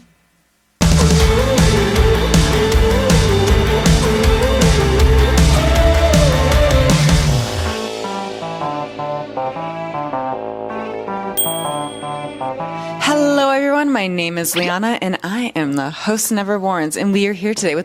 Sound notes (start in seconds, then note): 0.2 upbeat music continues; 11.4 upbeat music continues; 11.4 bell dings